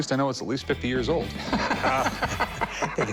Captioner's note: laughs